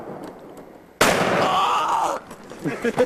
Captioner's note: gunshots; scream; gunshot